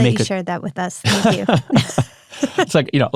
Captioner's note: Jonathan laughs